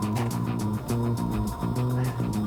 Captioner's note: panting